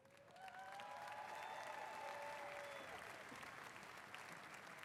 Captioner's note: applause